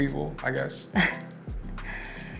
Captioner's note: chuckles